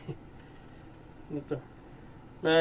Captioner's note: laugh